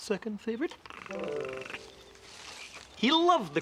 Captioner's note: purring